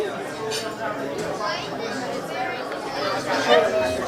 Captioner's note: all chattering